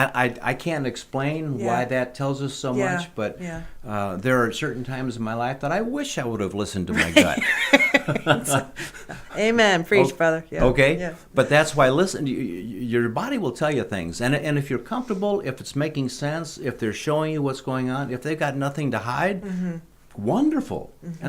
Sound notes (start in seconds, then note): 6.9 laughing